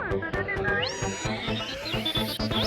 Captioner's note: BB-8 sounds